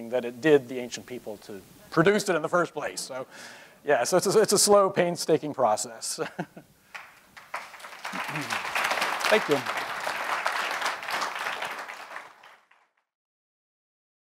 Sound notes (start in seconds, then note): 6.9 applause